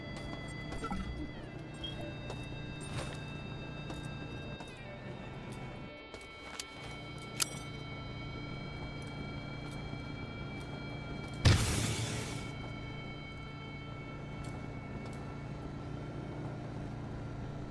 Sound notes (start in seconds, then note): 5.7 gun fires